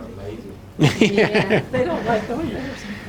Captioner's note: laughing